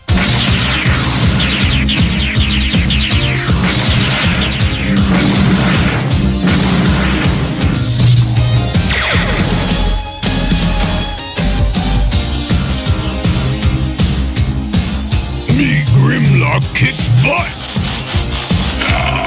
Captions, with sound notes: (rock music) (roaring) - Me Grimlock kick butt!